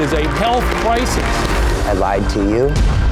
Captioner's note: crowd cheering